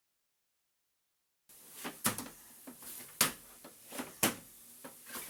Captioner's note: sounds of walking, steps